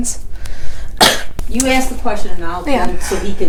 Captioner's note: cough